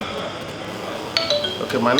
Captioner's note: phone rings